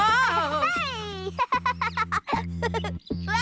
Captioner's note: giggling